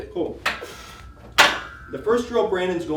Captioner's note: metal clanks